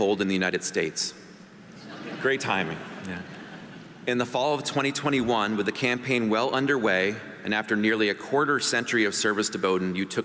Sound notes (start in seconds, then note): 1.8 audience laughing